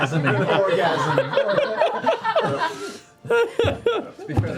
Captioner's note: laughter